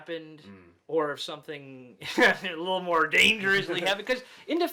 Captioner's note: chuckles